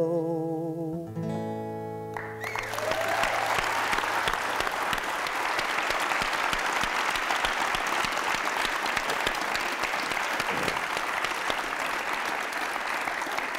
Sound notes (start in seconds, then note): 2.5 applause